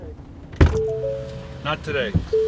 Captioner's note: car dinging